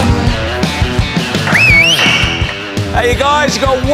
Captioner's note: whistles